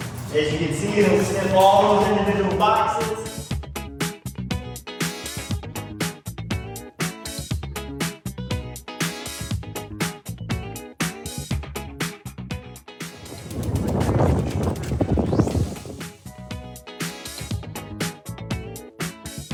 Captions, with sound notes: - As you can see, he'll sniff all those individual boxes. (upbeat music) (wind whooshing) (upbeat music)